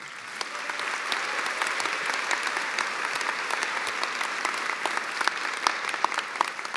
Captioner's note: cheers and applause